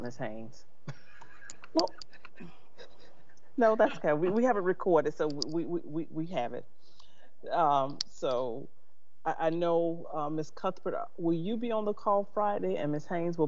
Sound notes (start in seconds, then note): 0.9 laughs; 2.8 sighs